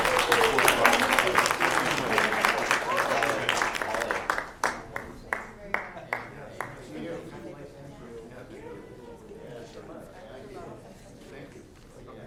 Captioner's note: applause